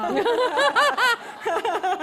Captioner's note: laughter